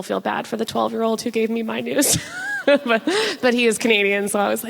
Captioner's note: laughs